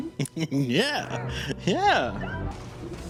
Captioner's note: laughs